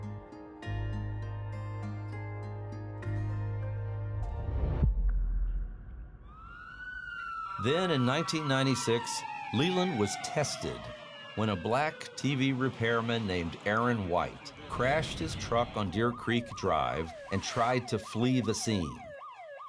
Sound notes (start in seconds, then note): 11.3 sirens wailing